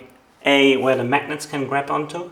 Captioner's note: none